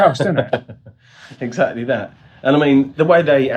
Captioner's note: laughs